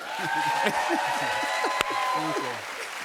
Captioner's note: cheering